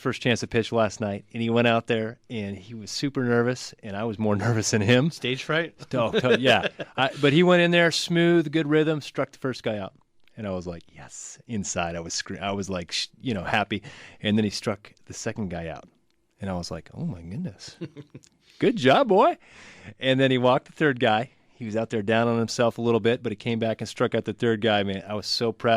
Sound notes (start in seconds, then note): 5.9 laughs; 11.0 whispers "Yes"